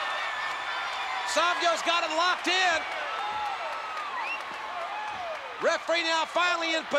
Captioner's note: spectators cheering